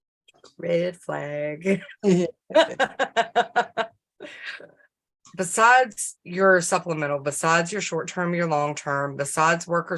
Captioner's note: laughter